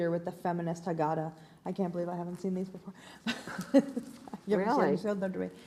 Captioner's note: laughs